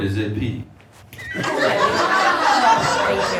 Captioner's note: audience laughs